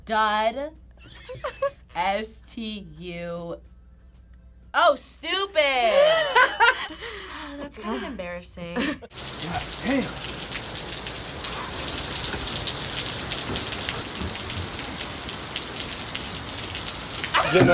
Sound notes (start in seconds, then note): 1.0 laughs; 5.9 bell rings; 6.0 laughs; 11.4 rain pattering